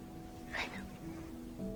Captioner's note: voiceover